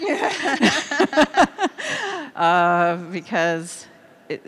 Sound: laughing

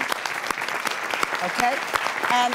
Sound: applause

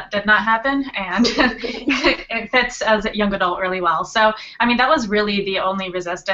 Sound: laughter

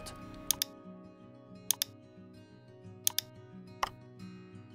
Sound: keyboard clicks

